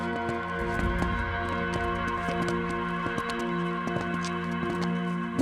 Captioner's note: footsteps approaching